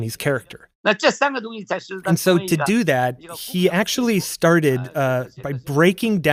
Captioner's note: speaking Mandarin